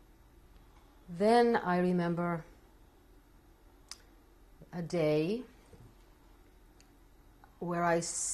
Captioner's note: pauses for 3 seconds